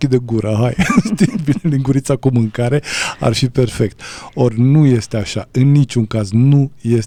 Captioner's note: laughter